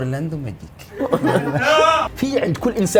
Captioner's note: laughs